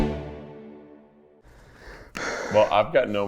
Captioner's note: strained breathing